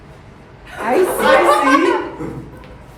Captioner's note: guffaws